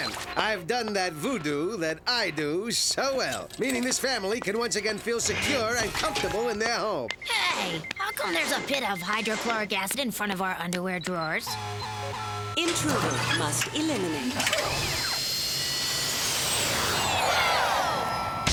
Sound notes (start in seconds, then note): 11.4 alarm sounds